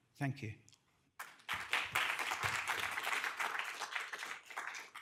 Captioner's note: audience applause